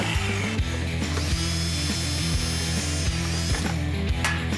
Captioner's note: drilling